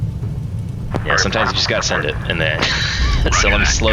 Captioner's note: laughs